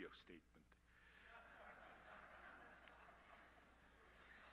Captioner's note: crowd laughing